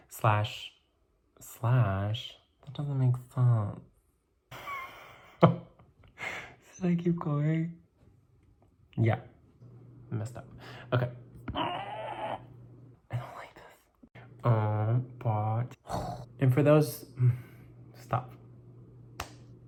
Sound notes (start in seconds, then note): 4.6 wheeze laugh; 11.5 grunts; 12.8 whispers